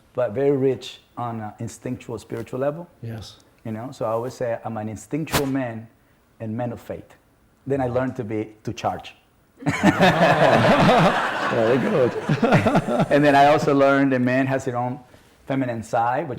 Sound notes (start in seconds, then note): 9.7 audience laughs; 12.6 laughs